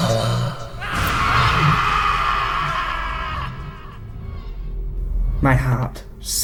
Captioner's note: screaming